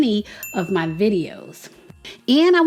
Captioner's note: bell dinging